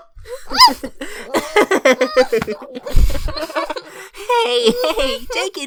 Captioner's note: hearty chuckle